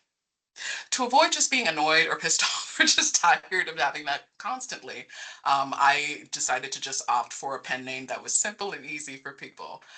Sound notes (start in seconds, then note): 2.6 laughing